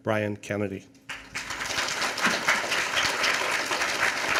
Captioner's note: applause